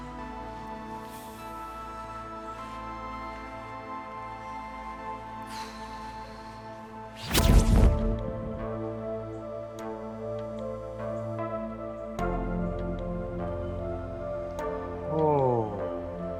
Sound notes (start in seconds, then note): 5.4 exhales deeply; 7.2 zapping